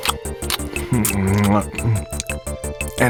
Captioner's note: eating sounds